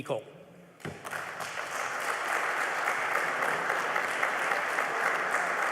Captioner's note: applause